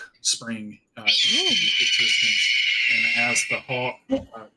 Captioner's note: hawk squawks